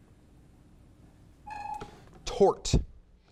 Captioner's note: timer beeps